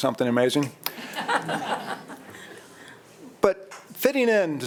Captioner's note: board members laughing